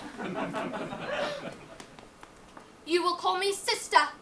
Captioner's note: audience laughs